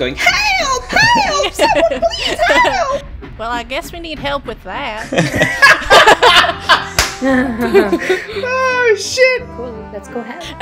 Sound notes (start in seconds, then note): 0.9 laughter; 5.0 laughter; 7.2 laughs